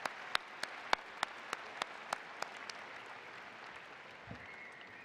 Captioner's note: APplause